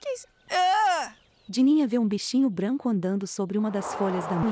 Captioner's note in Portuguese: Pássaros